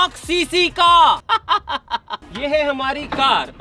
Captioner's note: laughing